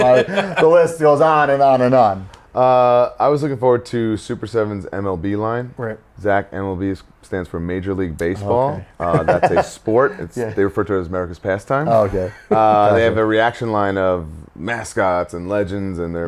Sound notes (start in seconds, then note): 8.6 laughs